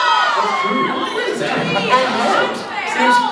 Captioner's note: laughs; fans in line riot; laughs; fans in line riot